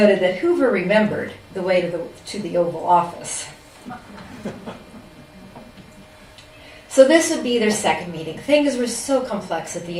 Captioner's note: laughter